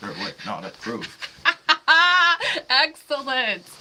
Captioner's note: laughing